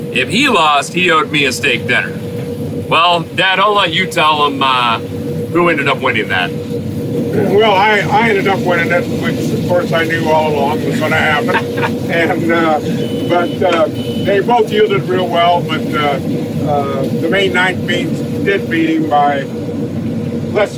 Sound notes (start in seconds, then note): 10.8 laughs